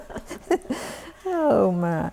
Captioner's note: laughter